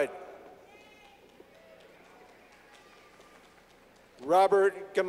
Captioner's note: clapping